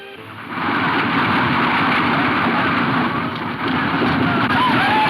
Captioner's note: horses galloping; men whooping and shouting